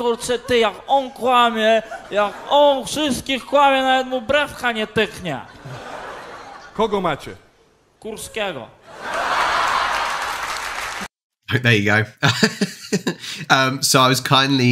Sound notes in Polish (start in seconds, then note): 9.1 Aplauz